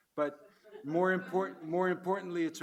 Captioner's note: audience laugh